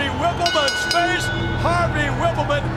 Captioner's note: bell rings